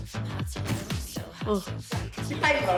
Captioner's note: sighs